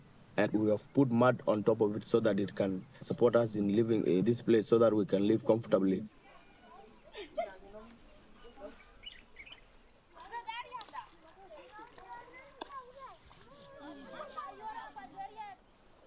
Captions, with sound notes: ground, and we have put mud on top of it so that it can support us in living in this place, so that we can live comfortably. [INDISTINCT CHATTER] [BIRDS CHIRPING] [INDISTINCT CHATTER]